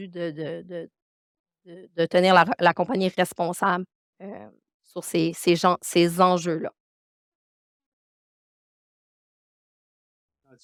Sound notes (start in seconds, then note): 3.8 continues speaking French